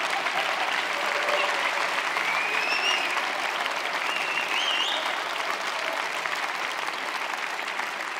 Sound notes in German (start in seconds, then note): 0.0 Applaus, Lachen, Jubel